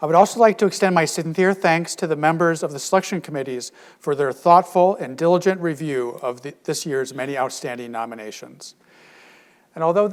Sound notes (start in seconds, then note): none